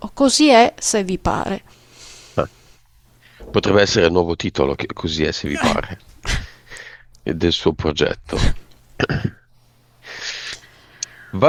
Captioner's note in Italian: sbuffare